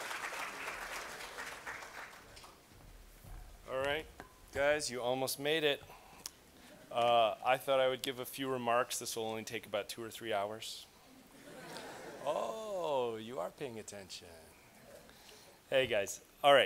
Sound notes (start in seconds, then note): 0.0 applause; 11.3 chuckling